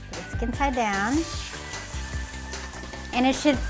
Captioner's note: oil sizzling